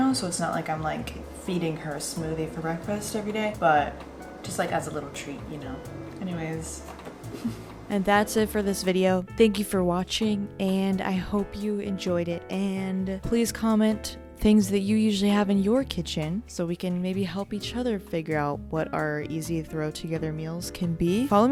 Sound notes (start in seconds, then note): 7.3 laughs